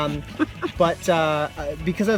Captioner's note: laughing